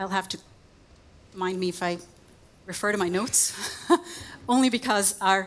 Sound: chuckles

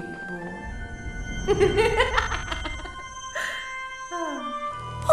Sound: laughing, sighing

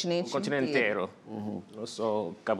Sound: speaking portuguese

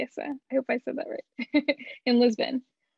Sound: chuckles

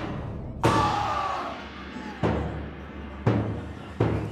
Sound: screaming

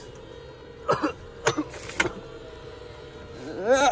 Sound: coughing; weird moaning sounds

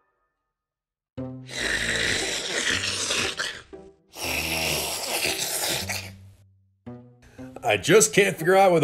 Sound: slurping

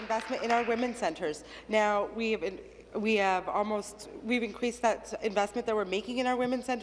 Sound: applause

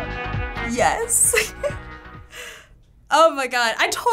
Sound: laughing

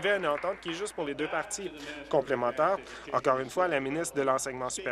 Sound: applause

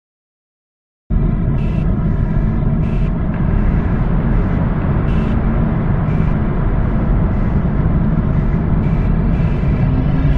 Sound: sound of dark alien planet

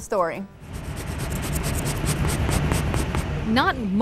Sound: pencil scratching on paper

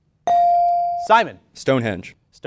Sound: ding

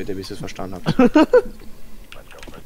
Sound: laugh

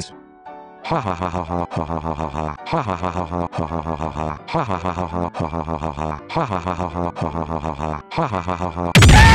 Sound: funny laughing

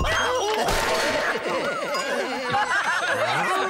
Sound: crash!; laughter

